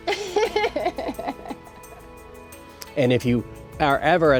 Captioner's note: laughs